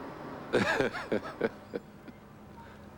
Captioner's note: cckling